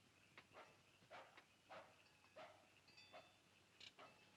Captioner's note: dog barks in distance